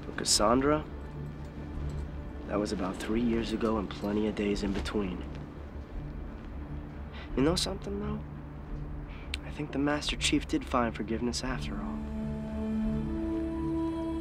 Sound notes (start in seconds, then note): none